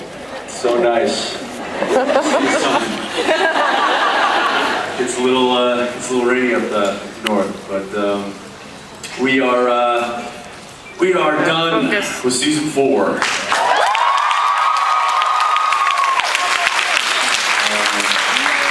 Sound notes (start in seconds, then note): 1.6 laughs; 13.2 applauds, cheers; 18.2 applauds